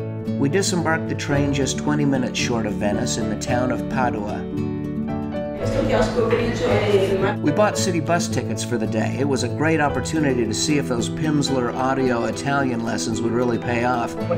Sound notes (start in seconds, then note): 5.4 woman speaking in Italian; 14.2 asking for tickets in questionable Italian